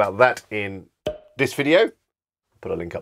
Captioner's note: pops